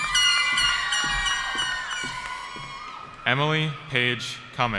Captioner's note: cheering